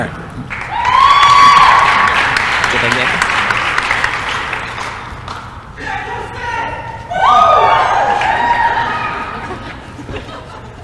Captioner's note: applause & cheering